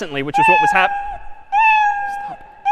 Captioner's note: میو زدن